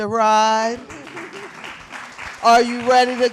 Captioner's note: applause